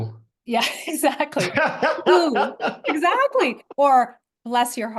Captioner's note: laugh